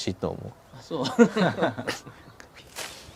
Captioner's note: laughs